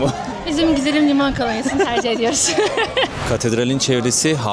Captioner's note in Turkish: kahkaha